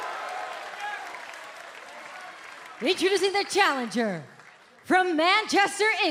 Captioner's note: cheers and applause